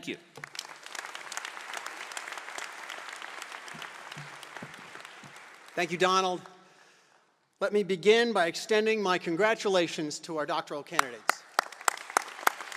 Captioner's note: applause